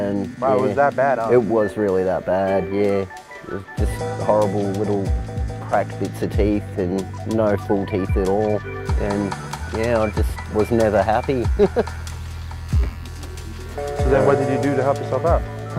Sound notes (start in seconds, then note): 11.4 laughing